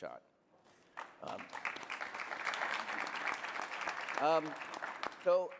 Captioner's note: applause